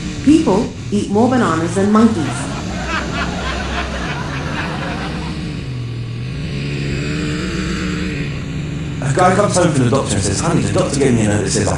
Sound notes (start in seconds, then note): 1.6 laghter Applause; 4.0 sound of outboard motor